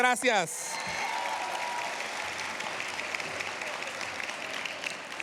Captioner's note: cheers, applause